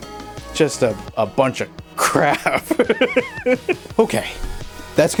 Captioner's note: chuckling